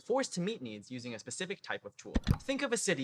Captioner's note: click